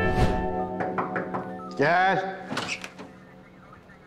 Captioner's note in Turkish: Kapı vuruldu